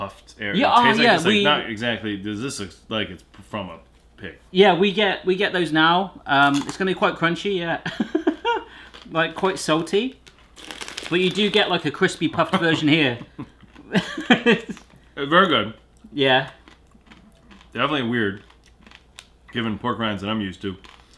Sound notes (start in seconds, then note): 6.0 loud crunch; 8.4 laughing; 12.4 laughter